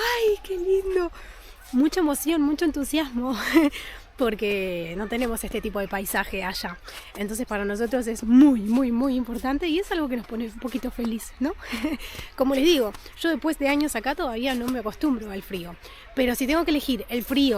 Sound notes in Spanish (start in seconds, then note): 11.6 risas